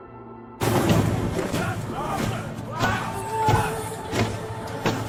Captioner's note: boots thudding